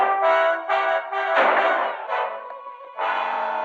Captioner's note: gunshot